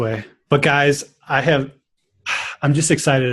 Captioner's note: sighs